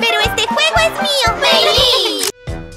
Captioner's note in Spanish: Risas